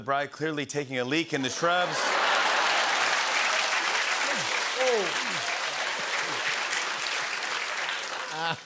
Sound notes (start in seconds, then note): 1.4 laughter and applause